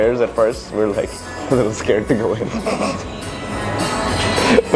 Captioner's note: laugh